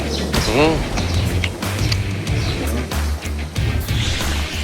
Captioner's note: Inhaling the sujebi